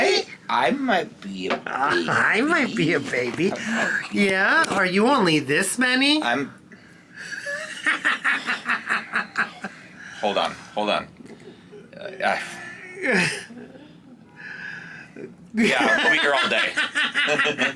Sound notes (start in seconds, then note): 7.9 cackling